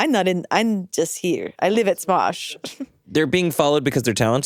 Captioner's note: chuckles